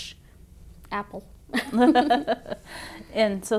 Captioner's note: laugh